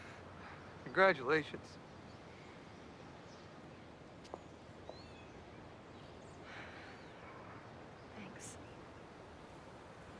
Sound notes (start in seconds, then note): 0.8 voice trembles; 6.3 sighs